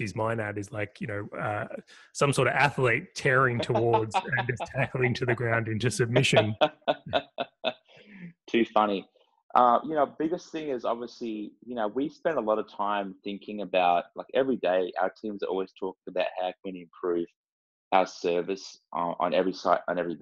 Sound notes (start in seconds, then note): 6.5 laugh